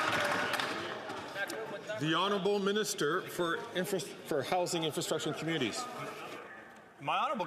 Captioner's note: some Applause